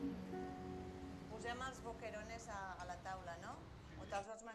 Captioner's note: speaking foreign language